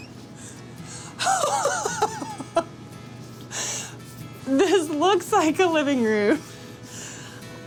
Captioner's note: laughs